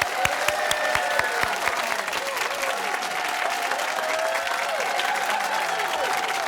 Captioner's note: cheers and applause